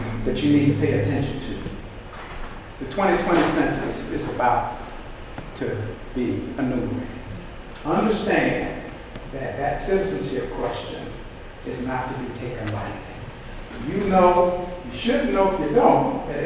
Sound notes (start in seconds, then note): none